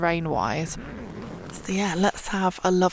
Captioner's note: zipper